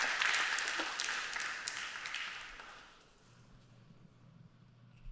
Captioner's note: applause